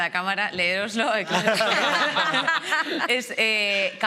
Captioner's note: they all laugh